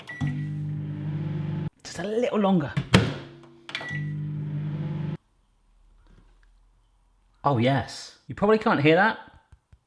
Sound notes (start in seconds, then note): 0.1 beeping and whirring; 3.7 microwave door closing and beeping